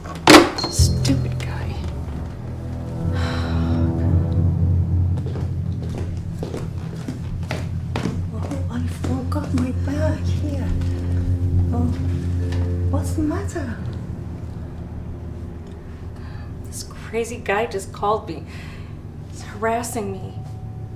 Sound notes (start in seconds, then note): 0.1 phone receiver thuds; 3.1 sighs loudly; 5.0 footsteps pattering